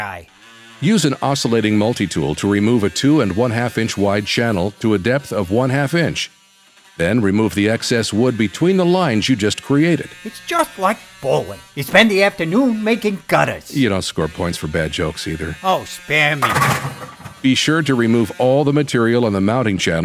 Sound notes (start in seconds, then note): 16.4 SFX: bowling strike